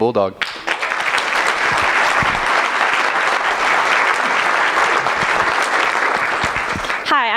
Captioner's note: applause